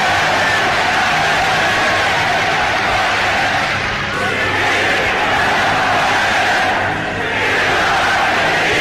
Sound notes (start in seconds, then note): 4.6 chanting in German